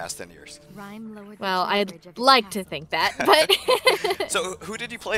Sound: hearty laughter

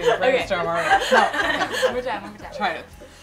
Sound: laugh

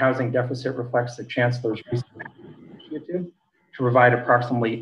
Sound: faintly speaking

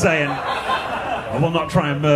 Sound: audience laughing

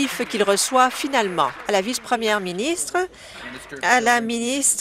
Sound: applause

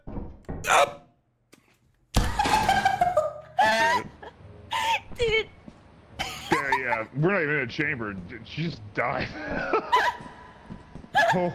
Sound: laughs

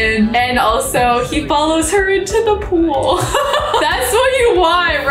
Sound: laughs

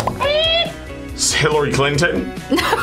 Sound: buzzer squeaks; laughs loudly

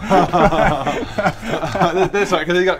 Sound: unfooled laughs

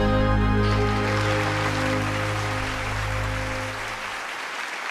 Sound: applause

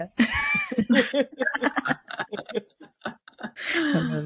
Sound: laughs

